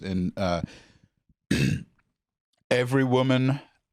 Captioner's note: clears his throat